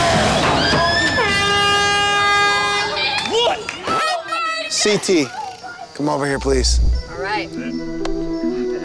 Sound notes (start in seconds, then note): 1.2 horn blows